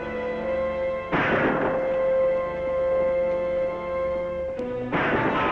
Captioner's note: gunshots